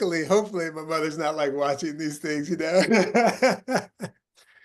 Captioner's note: laughing